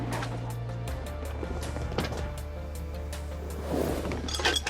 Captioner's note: tense music; objects clattering